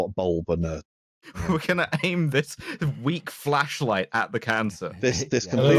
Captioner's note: laughing